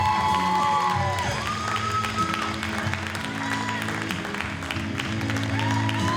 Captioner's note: audience cheers and applauds